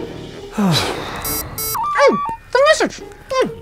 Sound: machine bleeps

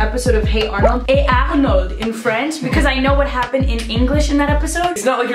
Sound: french accent

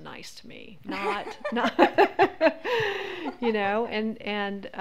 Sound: laughs

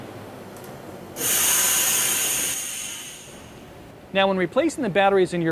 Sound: machine whirring

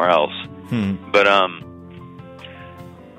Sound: sighs

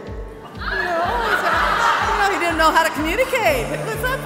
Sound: laughs

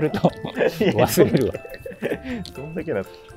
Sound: laughing

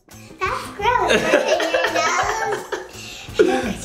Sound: laughing

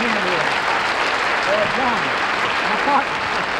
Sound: crowd clapping

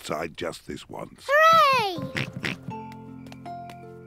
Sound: oinks

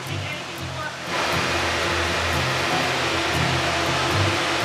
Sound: fans blowing

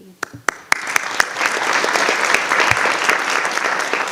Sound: audience applauding

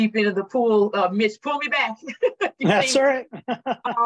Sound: chuckles

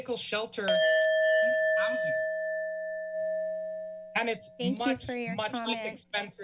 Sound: bell chimes

